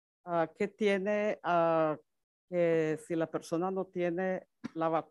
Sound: speaks Spanish

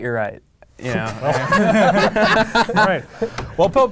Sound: laughing

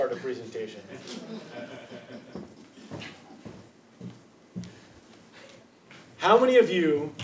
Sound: laugh

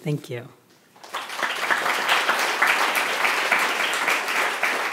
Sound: audience applause

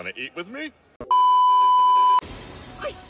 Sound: beep

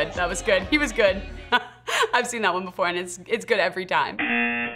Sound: laughing; buzzer

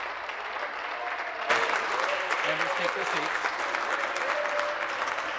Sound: applause

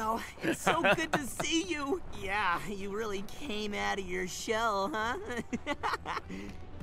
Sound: laughs

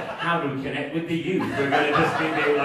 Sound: audience laughing

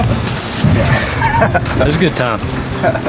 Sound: chuckles

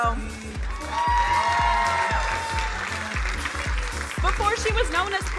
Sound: crowd cheering

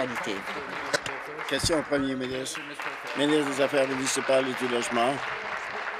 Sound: applause

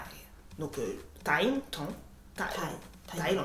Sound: in french

